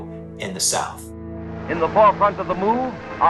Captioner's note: soundbite of archived recording